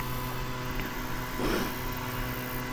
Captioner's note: laughing